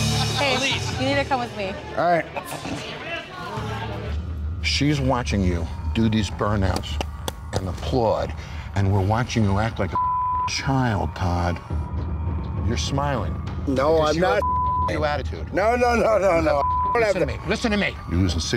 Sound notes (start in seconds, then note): 9.9 beep; 14.4 beep